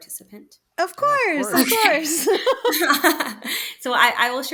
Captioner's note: laughs